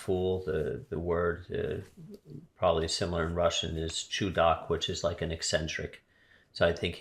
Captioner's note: russian